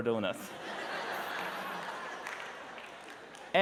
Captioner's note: laughter